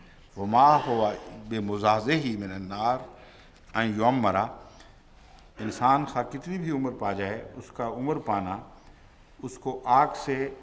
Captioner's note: Arabic